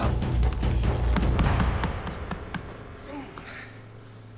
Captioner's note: tapping